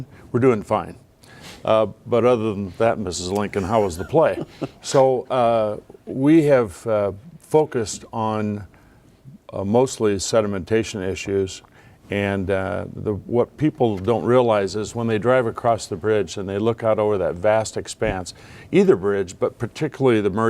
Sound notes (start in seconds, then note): 3.4 laughing